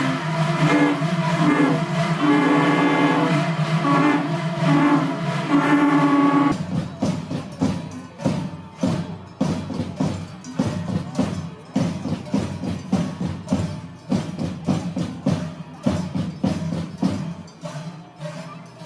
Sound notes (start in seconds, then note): 11.6 cow bell